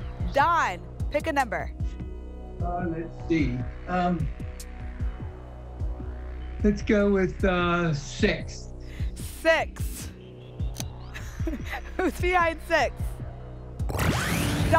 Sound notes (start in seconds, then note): 11.1 chuckles